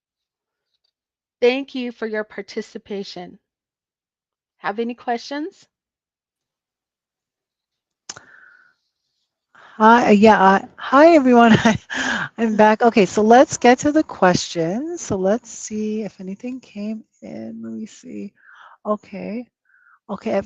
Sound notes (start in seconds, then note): 6.7 silence